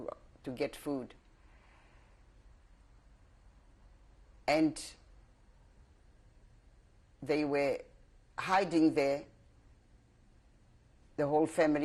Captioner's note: pauses for 3 seconds